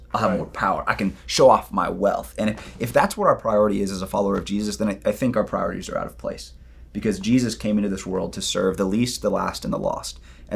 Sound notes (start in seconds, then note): none